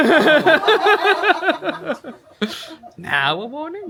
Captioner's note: all laughing; laughs